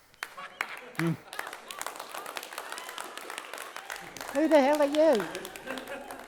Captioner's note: audience applauding